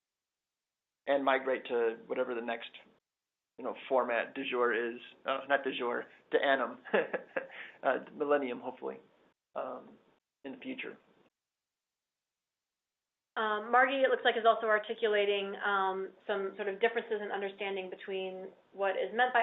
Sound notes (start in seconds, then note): 6.8 laugh